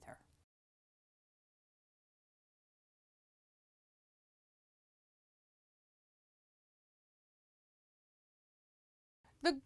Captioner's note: no Sound Present